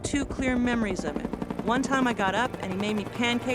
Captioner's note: helicopter whirs